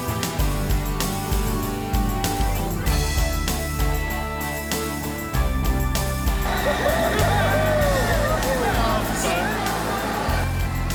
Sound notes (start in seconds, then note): 6.4 group chattering